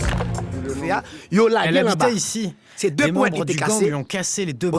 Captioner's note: French spoken audio